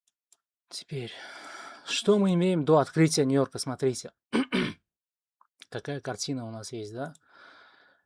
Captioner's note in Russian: откашливается